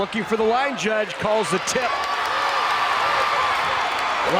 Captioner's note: crowd cheering